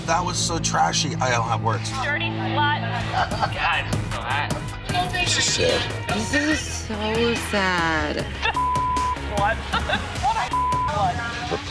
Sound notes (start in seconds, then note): 8.1 laughs; 8.5 beep; 10.5 beep